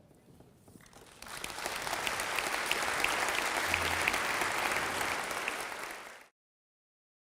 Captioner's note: applause